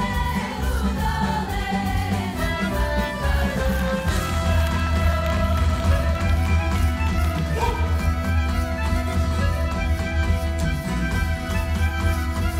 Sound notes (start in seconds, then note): 4.1 audience applauding; 9.8 upbeat folk music